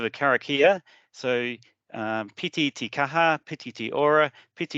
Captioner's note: speaking in te reo Māori